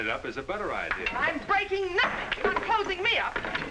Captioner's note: object clattering